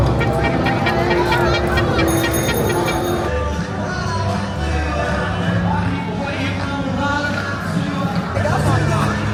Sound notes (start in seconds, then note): 0.0 horn honks; 0.4 guests chattering; 2.1 bell rings; 2.1 horn honks; 3.5 upbeat music